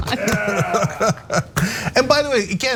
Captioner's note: laugh